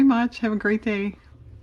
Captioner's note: car motor